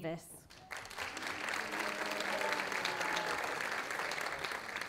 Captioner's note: audience applauding